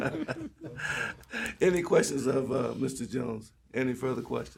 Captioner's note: laughter